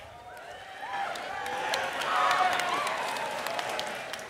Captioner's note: applause